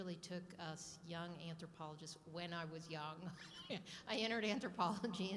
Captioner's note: laughing